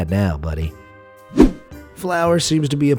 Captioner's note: air whooshing